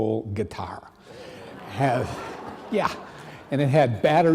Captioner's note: audience laughing